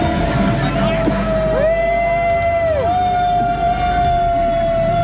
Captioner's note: cheering